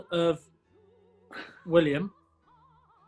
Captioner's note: chuckles